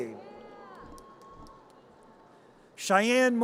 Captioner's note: audience cheers